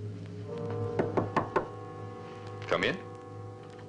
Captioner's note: knocking